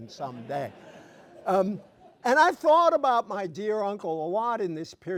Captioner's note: laughter